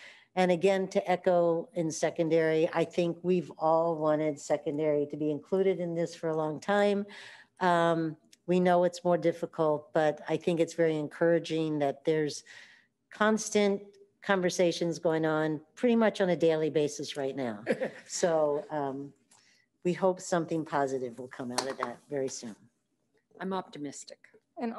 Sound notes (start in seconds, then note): 17.6 chuckle